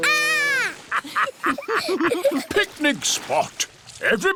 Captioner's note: laughter